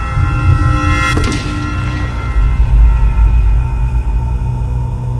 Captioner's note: suspenseful music; gunshot blasting